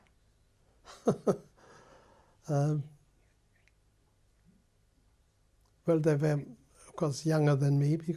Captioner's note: laughs